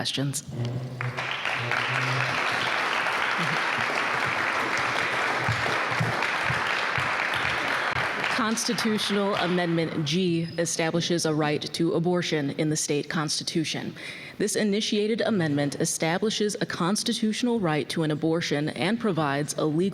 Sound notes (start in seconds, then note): 5.4 applause